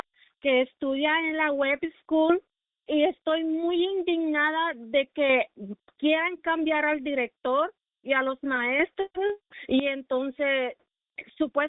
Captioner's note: speaking in spanish